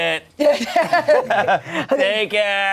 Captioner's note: everyone laughs